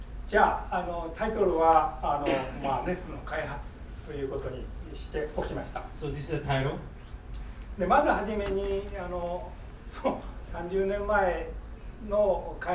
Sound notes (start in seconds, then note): 0.3 speaking in foreign language; 2.2 coughing; 7.9 speaking in foreign language